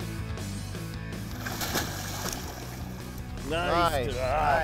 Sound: water splashes softly

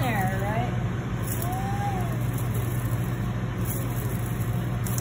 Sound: grinding

